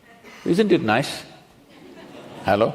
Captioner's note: few laugh